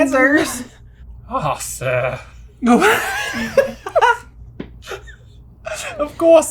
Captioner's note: laughter